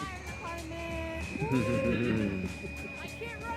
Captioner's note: people chuckling